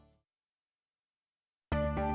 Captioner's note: silence